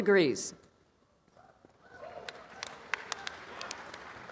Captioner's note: applause